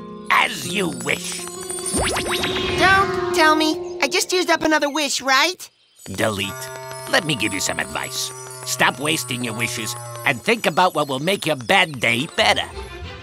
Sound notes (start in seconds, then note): 1.8 zap